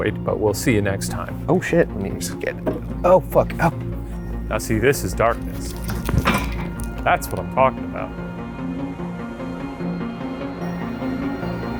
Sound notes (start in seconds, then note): 2.6 chair thuds; 5.4 chair clattering; 8.5 suspenseful music